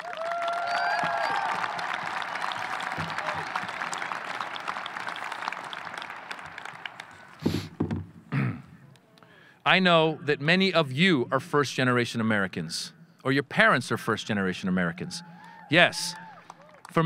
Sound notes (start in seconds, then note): 0.0 audience applauding; 3.6 audience cheering